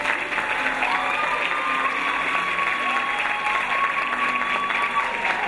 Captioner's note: audience applauding and cheering